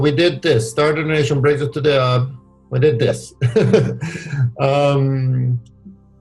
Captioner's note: laughs